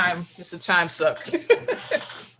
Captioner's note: laughs